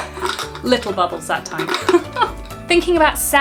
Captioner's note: laughs